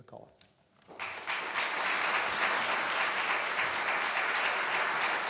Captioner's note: applause